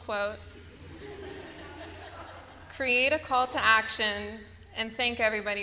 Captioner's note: laughter